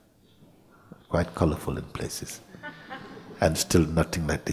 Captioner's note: laughter